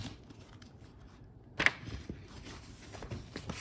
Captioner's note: papers shuffling